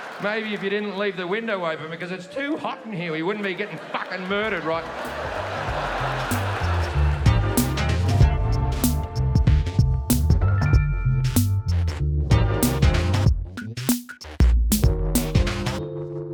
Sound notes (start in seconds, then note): 4.8 audience laughing; 6.2 soft funk music